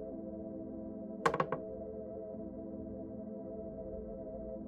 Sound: boards creaking

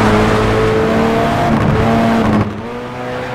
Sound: exhaust crackles

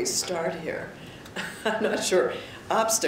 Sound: chuckles

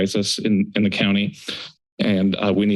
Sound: inhale

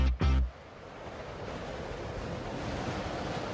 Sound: wind blows

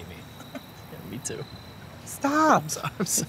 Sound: chuckling

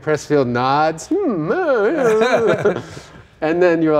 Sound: laughing

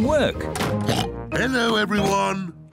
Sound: oinks

